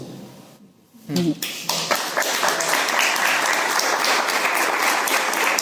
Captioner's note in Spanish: Aplausos